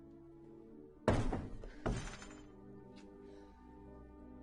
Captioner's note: door banging